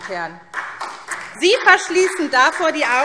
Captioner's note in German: Beifall SPD